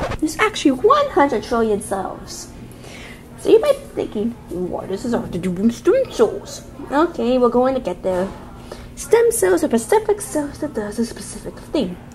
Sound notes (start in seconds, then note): 4.3 imitates old man